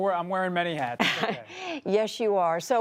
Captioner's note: laughter